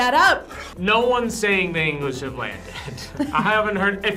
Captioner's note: laughs